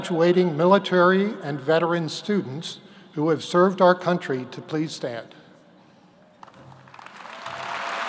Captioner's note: applause